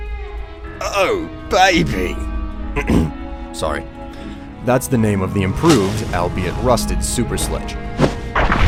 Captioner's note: clear throat